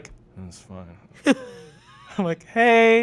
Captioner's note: chuckling